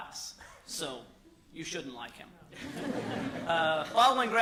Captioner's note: laughter